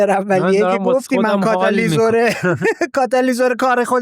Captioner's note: laughs